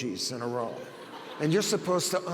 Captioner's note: audience laughs